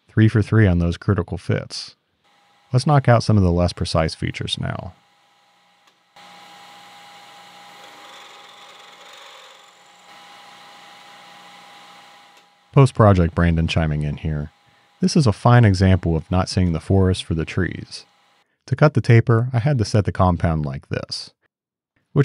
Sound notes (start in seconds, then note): 7.5 machine whirs